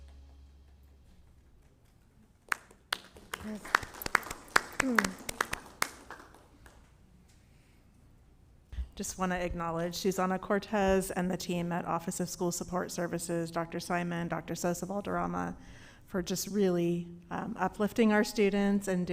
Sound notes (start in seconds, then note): 2.4 applause